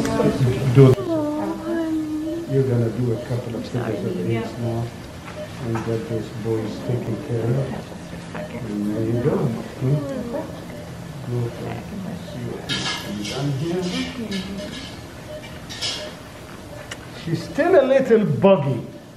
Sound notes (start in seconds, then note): 2.5 monitor beeping; 15.5 monitor beeping, kiss sound